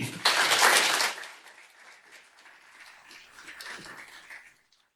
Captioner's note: audience applauding